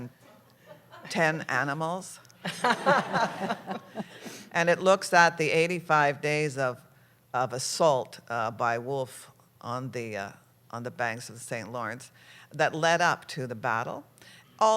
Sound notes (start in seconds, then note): 2.4 laughter